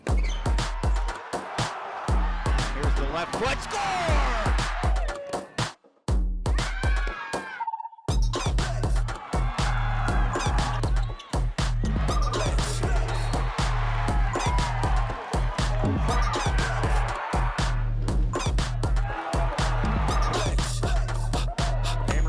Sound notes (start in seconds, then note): 0.0 crowd cheering; 0.4 upbeat music; 4.5 crowd cheering; 5.6 upbeat music; 6.4 crowd cheering; 7.2 upbeat music; 9.0 crowd cheering; 11.6 upbeat music; 14.0 crowd cheering; 18.0 upbeat music; 19.3 crowd cheering